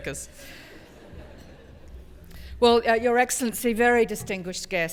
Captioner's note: laugh